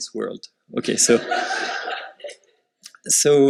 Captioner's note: laughter